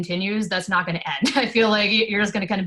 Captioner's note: laughs